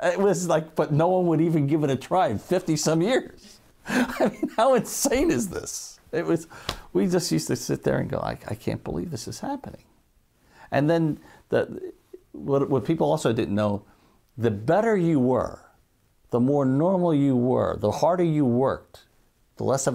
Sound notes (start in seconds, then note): 3.8 laughing